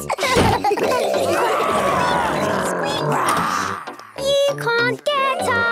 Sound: giggling; growls, snorts

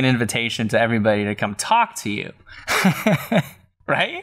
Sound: laughter

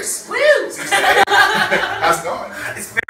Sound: Thorgy laughs loudly

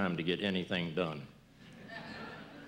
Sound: laughter

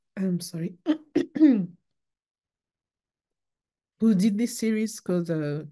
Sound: clears throat

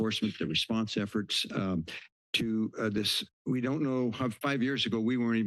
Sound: stutters

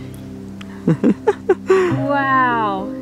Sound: laughs

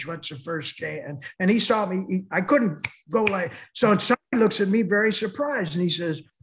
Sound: snaps fingers

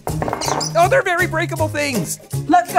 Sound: rattling dishes

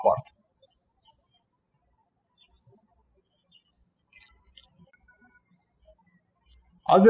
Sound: birds chirping

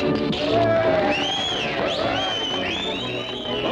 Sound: crowd cheering

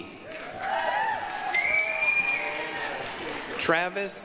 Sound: applause, cheering

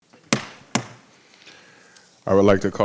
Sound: gavel banging

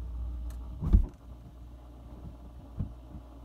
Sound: freezer top closes

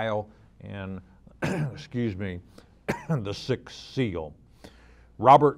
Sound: clears throat

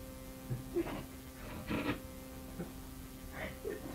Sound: chuckling

